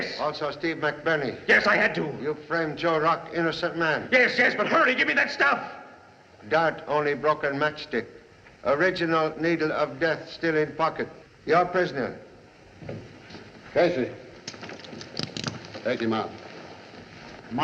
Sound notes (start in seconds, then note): none